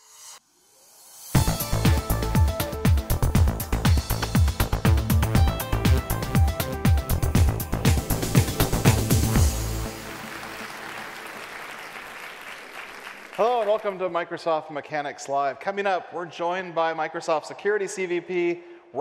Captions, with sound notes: (upbeat futuristic music) (audience applauds) - Hello and welcome to Microsoft Mechanics Live. Coming up we're joined by Microsoft Security CVP,